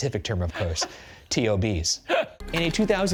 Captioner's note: laughing